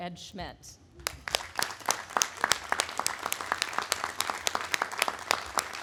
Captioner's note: audience applauding